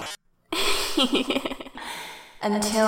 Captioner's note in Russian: злобный смех